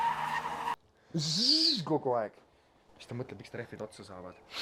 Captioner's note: burnout noises